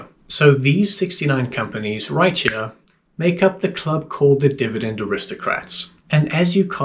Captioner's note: click